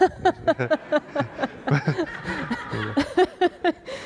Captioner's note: laughter